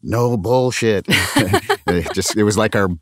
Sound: laughter

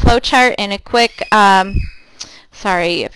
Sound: child squealing, distantly

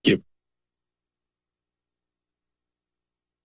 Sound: silence

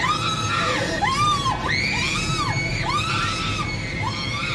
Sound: screaming Continues

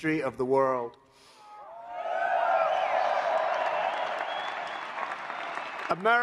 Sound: applause

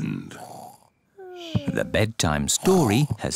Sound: both snore

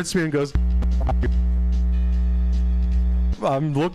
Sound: microphone static

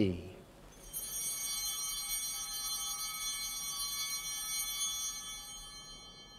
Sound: chimes ringing

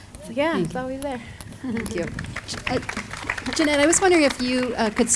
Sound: audience applauding

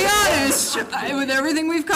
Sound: laughing

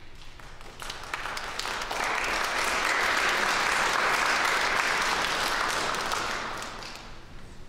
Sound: applause

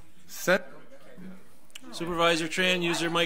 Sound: overlapping chattering

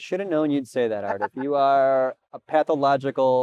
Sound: laughs

